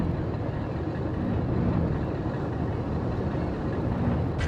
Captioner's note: engine revving